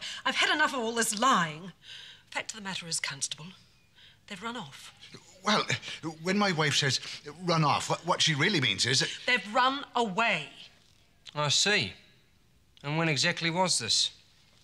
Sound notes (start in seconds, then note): none